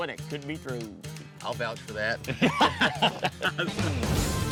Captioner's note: laughter